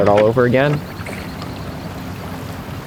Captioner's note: water dripping from oar